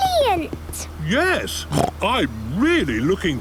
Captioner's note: snort